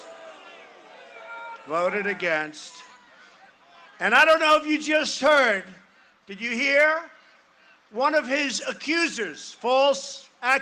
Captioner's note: cheering and applause